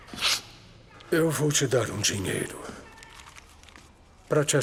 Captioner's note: notes whispering